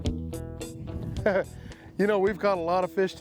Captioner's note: laughs